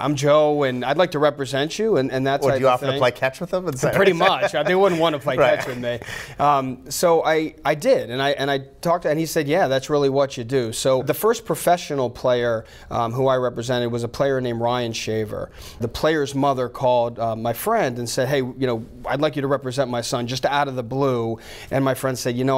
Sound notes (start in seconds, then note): 3.8 laughs